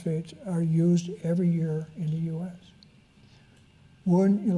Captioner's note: none